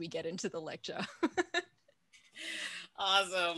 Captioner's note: laughs